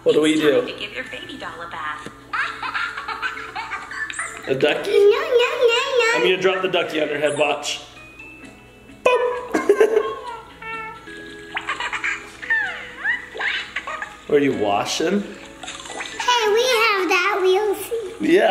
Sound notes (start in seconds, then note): 2.3 baby giggle; 9.0 laughing; 10.6 baby cooing; 11.8 baby laughing